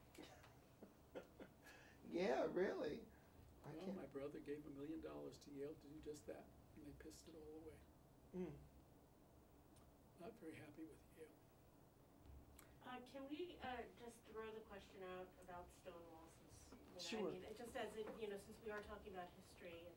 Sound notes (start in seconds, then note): 1.1 laughs